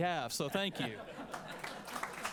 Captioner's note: laughter; applause